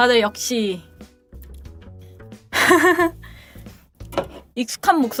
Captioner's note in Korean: 웃음